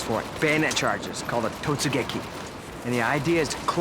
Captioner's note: japanese